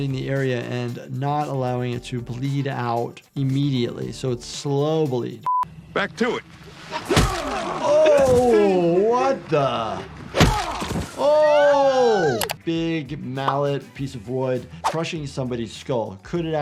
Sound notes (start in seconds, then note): 7.0 bat thudding; 10.3 bat thudding; 11.1 woman screaming